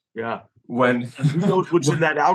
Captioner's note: laugh